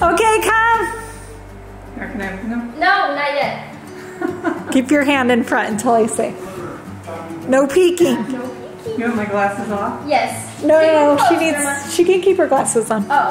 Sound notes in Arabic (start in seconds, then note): 4.0 تضحك